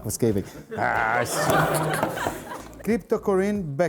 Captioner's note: laughs